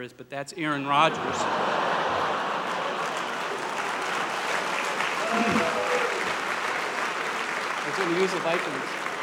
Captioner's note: applause